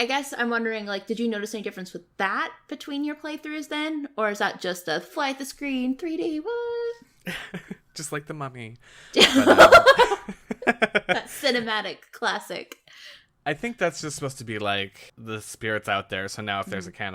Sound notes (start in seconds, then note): 7.2 laughs; 9.2 laughs